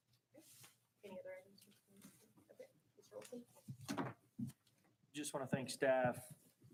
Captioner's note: speaking faintly